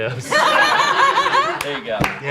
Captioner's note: everyone laughs